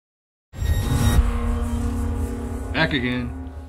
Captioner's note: electronic swoosh